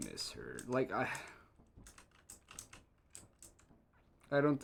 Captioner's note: sigh